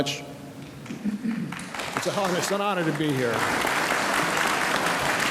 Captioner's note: audience applauds